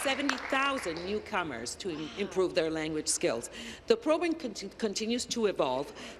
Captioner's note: applause